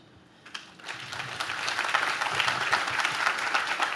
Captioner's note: audience claps